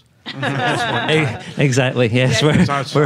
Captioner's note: many laughing